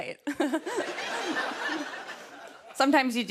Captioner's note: laughter